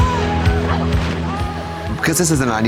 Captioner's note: water splashing